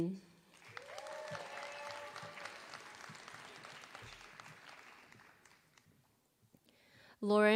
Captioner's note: applause